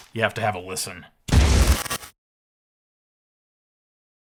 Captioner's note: loud explosion